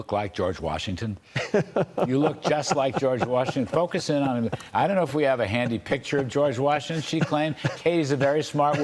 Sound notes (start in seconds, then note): 6.8 laughter